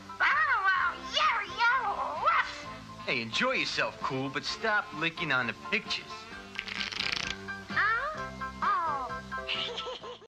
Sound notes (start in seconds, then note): 9.5 laughing